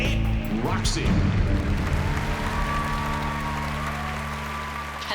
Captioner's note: applause and cheering